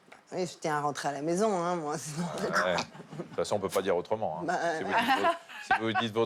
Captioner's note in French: rires